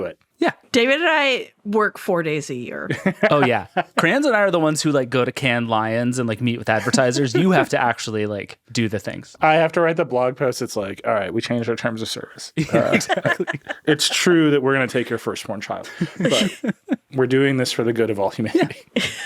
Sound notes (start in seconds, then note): 2.9 laughing; 12.6 all laughing